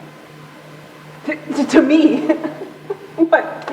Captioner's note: laughing; laughs